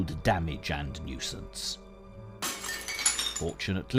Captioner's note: glass breaking